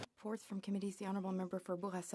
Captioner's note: speaking French